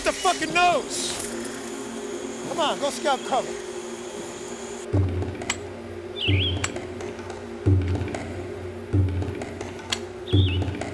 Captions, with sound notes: - Private, you're gonna hit the fuckin' nose! Come on, go scout cover. (clanking) (tense music)